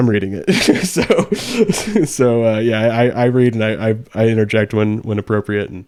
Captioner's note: laughs